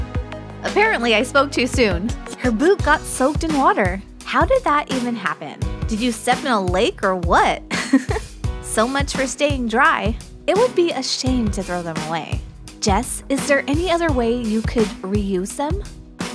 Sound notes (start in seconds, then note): 7.7 chuckle